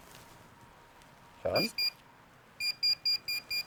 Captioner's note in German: Piepsen